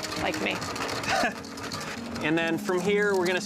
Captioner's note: chuckles